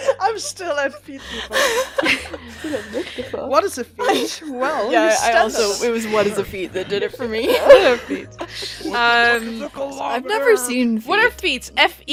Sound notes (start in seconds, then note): 0.0 laughing; 5.4 laughing